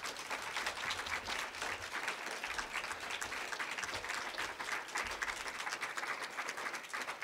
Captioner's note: applause